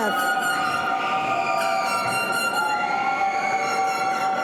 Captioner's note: air horn honking